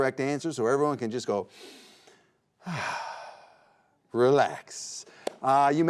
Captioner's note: sighs